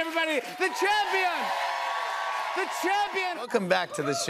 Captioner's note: cheers and applause